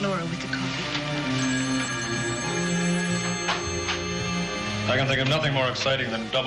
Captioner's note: phone rings